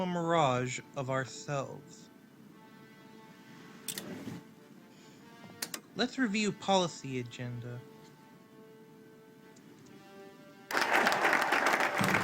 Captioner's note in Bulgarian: Аплодисменти